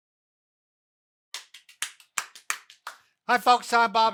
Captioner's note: clapping